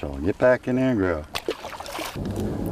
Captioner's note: splash